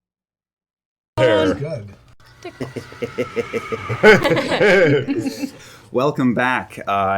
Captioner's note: laughter